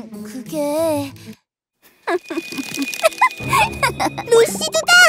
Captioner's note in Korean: 후훗, 루시드의 웃음; 챠라락, 화면 효과음